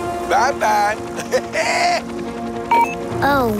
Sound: laughing

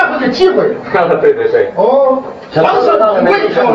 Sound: laughing

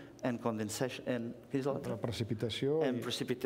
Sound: speaking catalan

